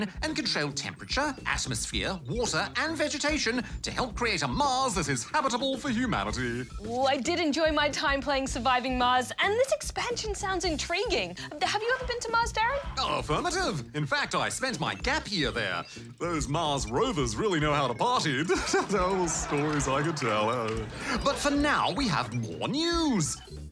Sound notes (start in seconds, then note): 18.4 chuckles